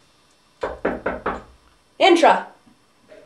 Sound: door is knocked upon

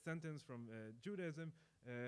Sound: speaking in foreign language

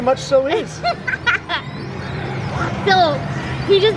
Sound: laughs

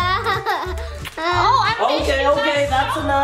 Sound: laughs

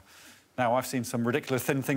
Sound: none

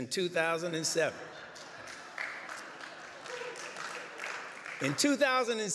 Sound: laughter, applause

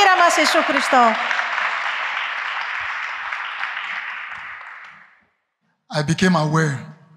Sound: applause

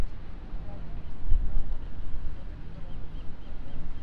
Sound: birds chirping

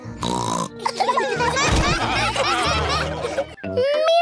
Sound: snorts; laughter

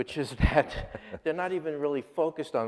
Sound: laughs

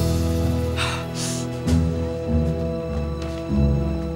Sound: exhales, Sniffs

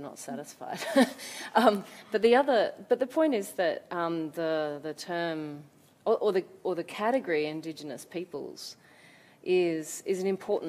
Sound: laughs

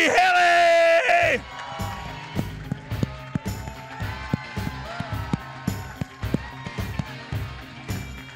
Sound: applause; applause continues

